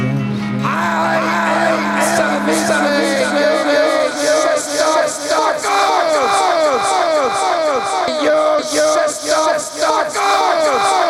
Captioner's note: echoing